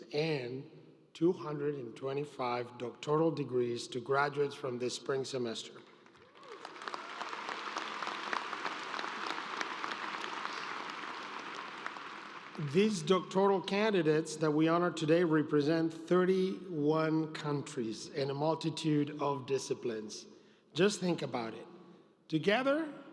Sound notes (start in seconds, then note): 10.1 applause